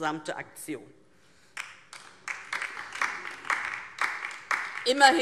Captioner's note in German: Beifall DIE LINKE